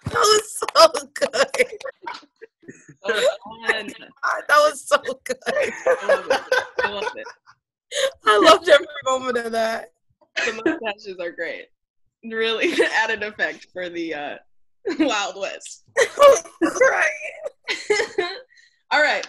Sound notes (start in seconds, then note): 0.0 all clap and cheer; 5.4 group laughs and cheers; 5.5 background chatter